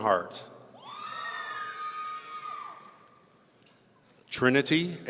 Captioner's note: audience cheering